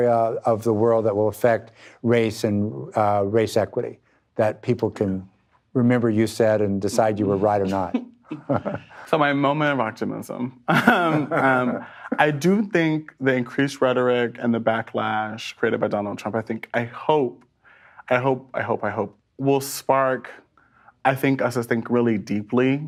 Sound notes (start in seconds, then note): 8.3 both laugh